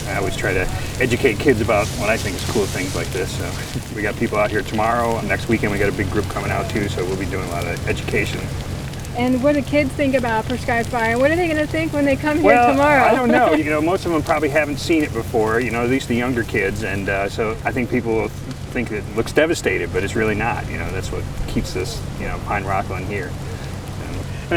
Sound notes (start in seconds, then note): 13.0 laughs